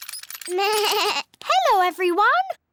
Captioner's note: bleats